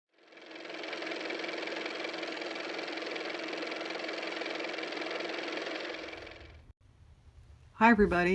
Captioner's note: car motor